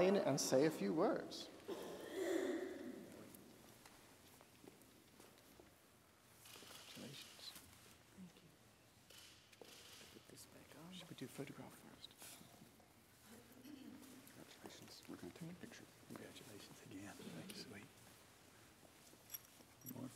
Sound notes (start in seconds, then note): 7.2 whispering